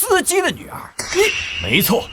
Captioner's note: trails off in anger